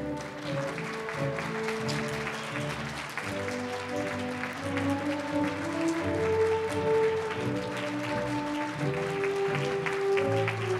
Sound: applause

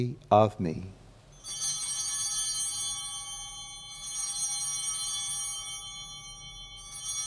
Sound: bell ringing

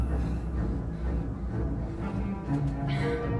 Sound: panting Softly

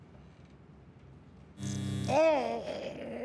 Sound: electricity buzzing

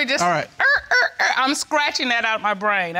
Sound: mimics record scratching

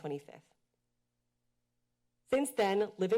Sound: pause

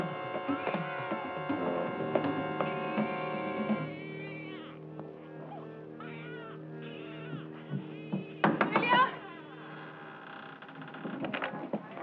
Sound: baby crying

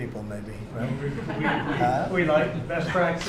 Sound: laughter

